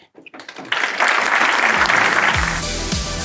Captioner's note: applause; outro music